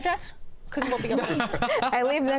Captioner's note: laughs